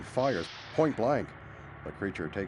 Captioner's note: gunshot